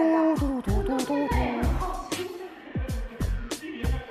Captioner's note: humming a tune